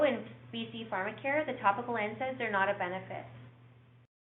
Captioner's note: mutters